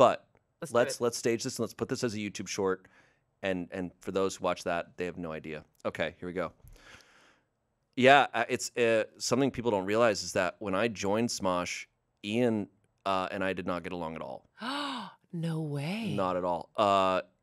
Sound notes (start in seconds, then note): 14.4 gasps